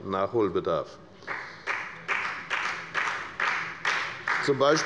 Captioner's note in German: Beifall bei der FDP